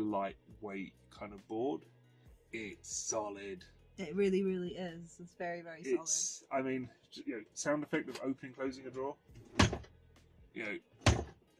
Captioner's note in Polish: Ciągnij dudnienie